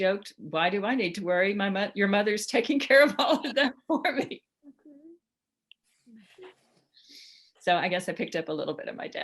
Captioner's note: laughs